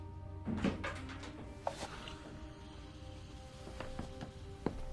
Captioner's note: wood clanking